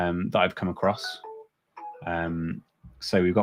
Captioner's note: alert chiming